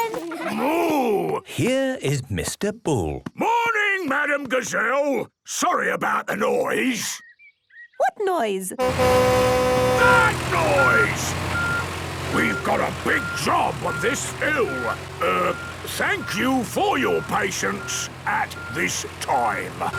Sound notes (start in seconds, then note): 9.4 tractor noise; 9.9 screaming